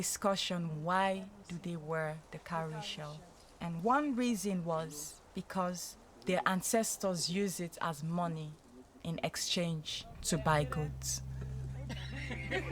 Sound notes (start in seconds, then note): 11.8 laughter